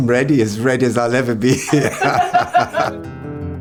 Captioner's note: pair laughs; upbeat music